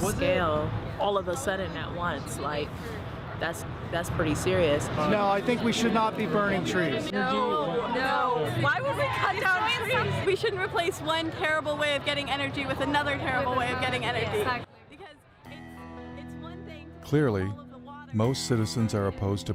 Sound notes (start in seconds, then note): 15.3 girl's voice fading